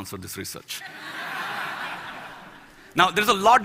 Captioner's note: Laughter; 笑聲